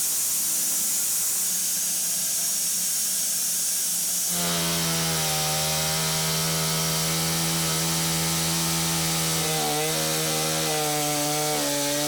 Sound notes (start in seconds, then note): 4.3 chainsaw buzzing